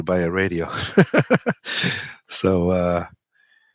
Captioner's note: laughs